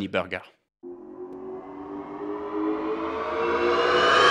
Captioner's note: engine revving